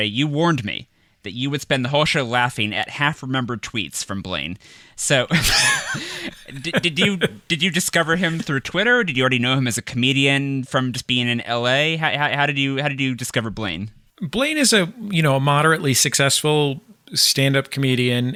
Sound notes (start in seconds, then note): 5.3 laughter